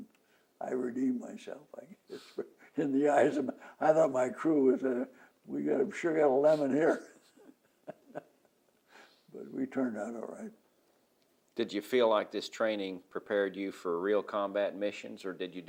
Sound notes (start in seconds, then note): 1.8 laughs